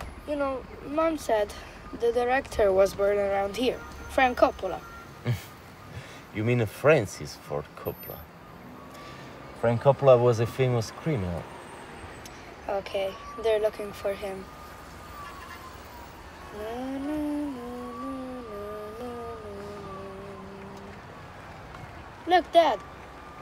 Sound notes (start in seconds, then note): 16.4 boy hums